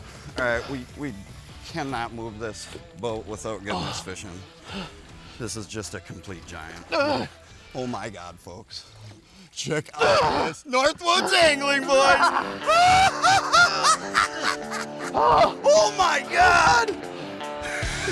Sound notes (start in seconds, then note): 6.8 grunting; 9.9 grunting; 11.9 laughing...cheering